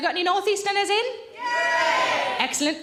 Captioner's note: crowd